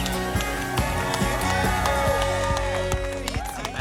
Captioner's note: cheering